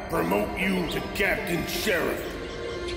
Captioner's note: voice of Admiral Marshal Hambone